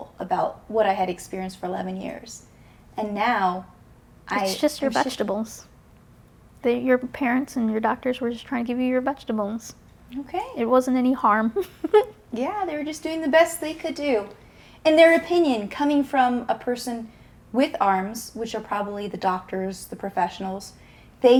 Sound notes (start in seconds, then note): 11.5 giggles